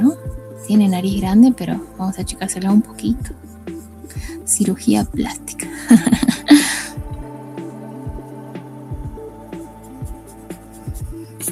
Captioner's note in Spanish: risas